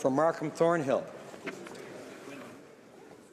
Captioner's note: speaking French